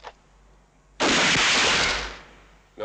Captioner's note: gun fires